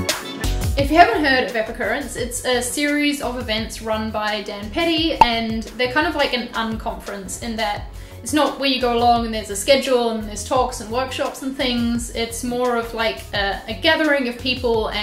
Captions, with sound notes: If you haven't heard of Epicurrence, it's a series of events run by Dann Petty (popping) and they're kind of like an un-conference in that it's not where you go long and there's a schedule and there's talks and workshops and things, it's more of like a gathering of people